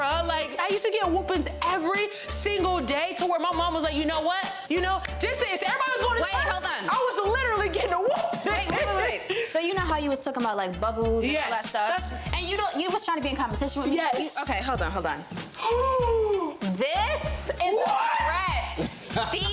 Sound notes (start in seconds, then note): 15.5 Young Ezee gasps